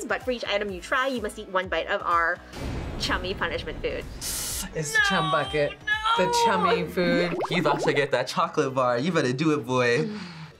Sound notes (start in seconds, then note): 4.2 inhales sharply